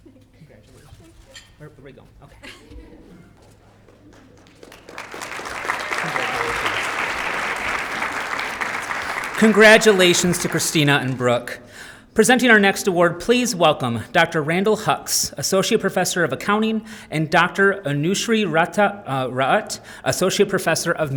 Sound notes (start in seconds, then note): 4.5 applause